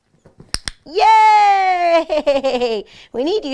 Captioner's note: click